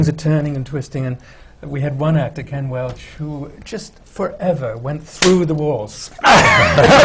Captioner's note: laughter